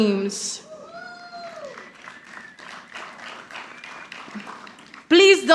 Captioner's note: audience applauding